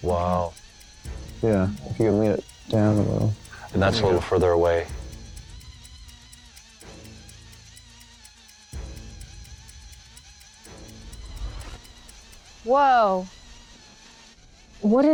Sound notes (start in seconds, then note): 5.2 buzzing